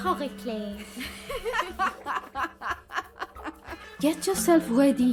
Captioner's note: women laughing